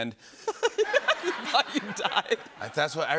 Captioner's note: laughter